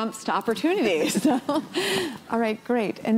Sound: laughter

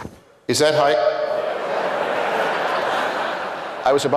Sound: laughter

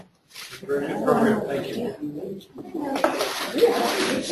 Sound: audience talking in background for rest of video

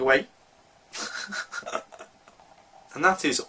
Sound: scoffs

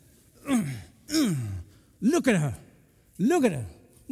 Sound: grunting

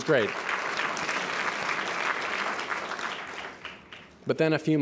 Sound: applause

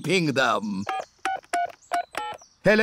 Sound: dialing phone

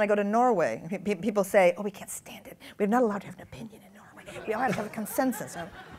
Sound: whispers

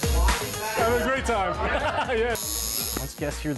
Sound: laughs

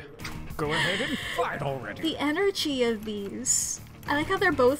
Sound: laughs

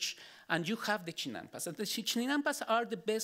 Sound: speaking Spanish

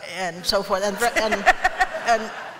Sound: laughter

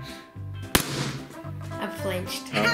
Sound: balloon pops loudly

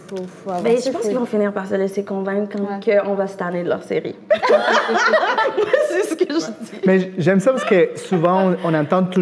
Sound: laughs

